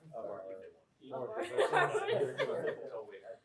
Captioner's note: laughs